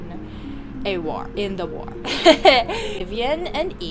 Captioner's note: evil author laughter